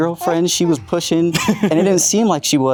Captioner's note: chuckles